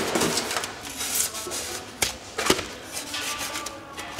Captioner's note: scraping noises